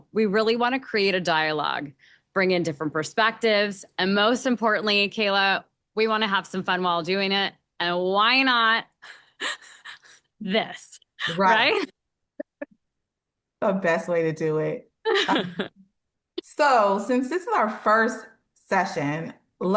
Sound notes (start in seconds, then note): 9.4 laughs